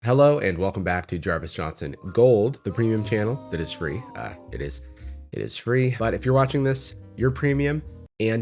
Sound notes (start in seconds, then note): 2.7 disembodied voice